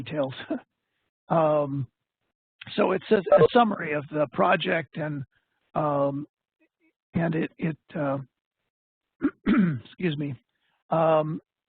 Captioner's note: clears throat